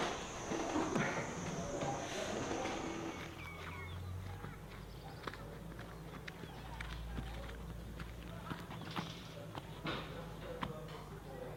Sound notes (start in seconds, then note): 3.7 birds chirping